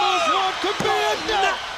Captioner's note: crowd cheering